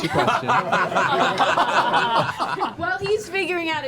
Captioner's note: laughter